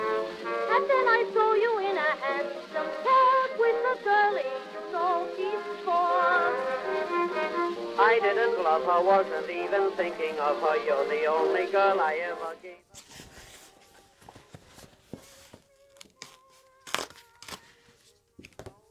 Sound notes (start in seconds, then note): 16.6 ASMR paper ripping sounds